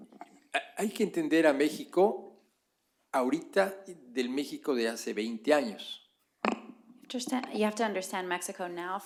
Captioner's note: spanish